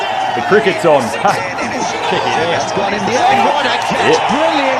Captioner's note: sports newscaster speaking loudly; crowd cheers